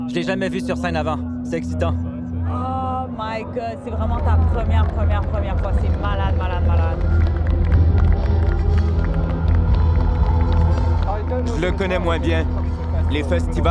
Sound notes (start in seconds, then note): 7.2 applause; 8.7 deep music